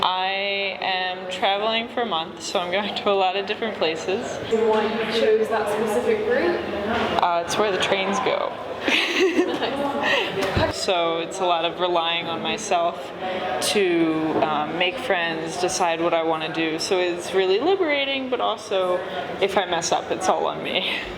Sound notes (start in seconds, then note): 8.8 laughs